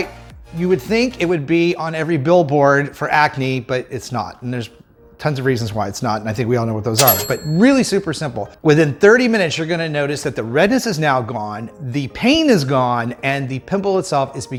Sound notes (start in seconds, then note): 7.0 cash register dings